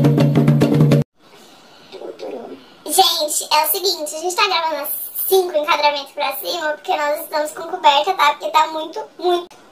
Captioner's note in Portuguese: voz modificada p/tom engraçado